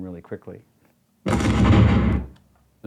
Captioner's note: explosion